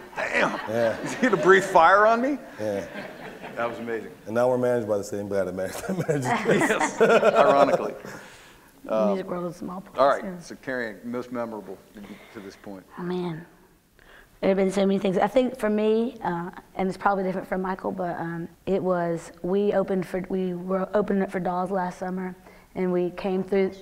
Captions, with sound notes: "Damn! Is he going to breath fire on me?" That was amazing. - And now we're managed by the same guy (laughs) who manages Kiss. - Ironically. - Music world is a small place. - Alright so Cary Ann, most memorable to this point. - Oh man, there have been so many things, I think for me and it's probably different for Michael but it was we opened up for Dolls last summer and we came through